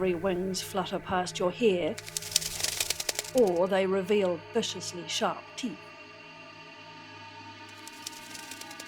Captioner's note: bat wings flapping